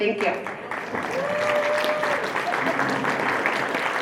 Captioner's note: applause